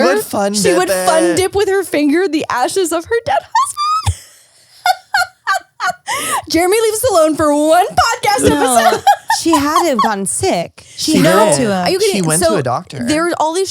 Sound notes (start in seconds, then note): 4.8 laughs